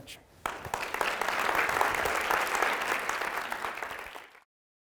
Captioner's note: audience applauding